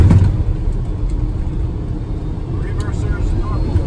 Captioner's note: wheels touching ground